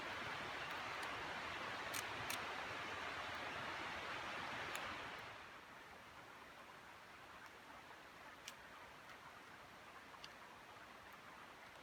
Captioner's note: sound of the Forest